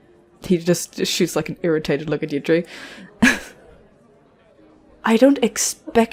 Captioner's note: chuckles